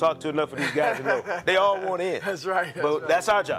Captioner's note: laughing